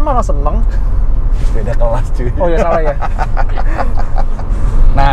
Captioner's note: laughing